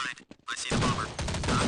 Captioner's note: game sound - running footsteps